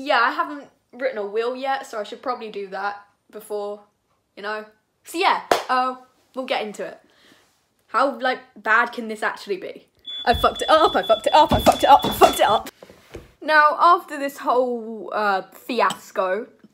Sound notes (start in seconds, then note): 10.0 fire alarm